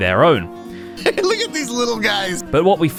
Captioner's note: giggles